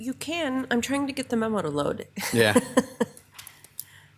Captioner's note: laughs